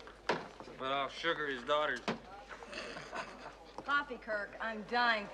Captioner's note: Смеется